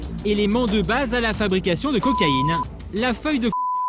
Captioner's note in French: bip